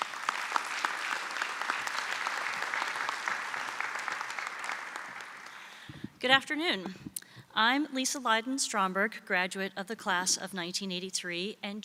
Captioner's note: applause